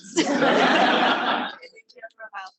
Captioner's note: students laughing